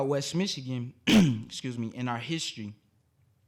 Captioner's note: coughing